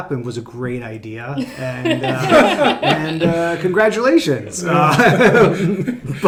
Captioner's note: laughing